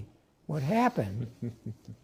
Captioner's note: laughter